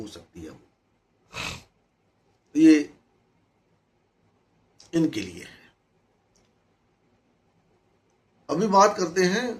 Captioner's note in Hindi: नाक से की जाने वाली आवाज़